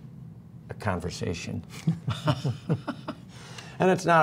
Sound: laughter

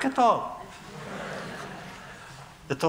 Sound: laughter

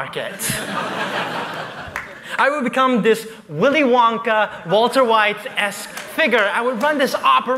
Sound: laughter

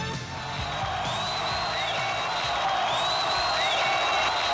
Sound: crowd cheers

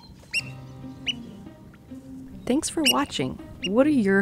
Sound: bird squeaking

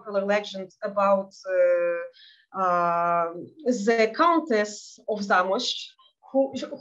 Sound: speaking in Yiddish

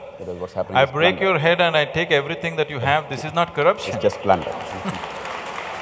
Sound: applause

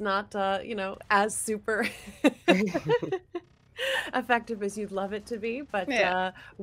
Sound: laughs

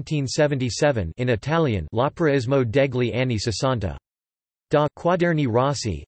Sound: in Italian

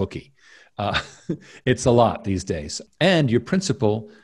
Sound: chuckles

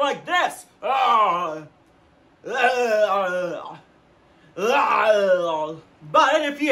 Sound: gagging noises

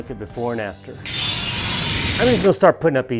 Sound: metal blades shearing

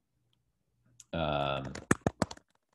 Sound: typing

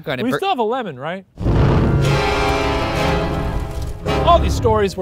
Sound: smoke whooshing; intense music

